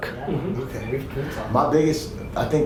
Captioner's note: murmuring agreement